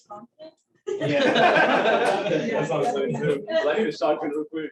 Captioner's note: laughter